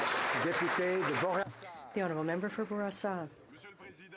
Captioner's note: applause